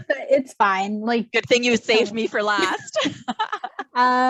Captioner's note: laughs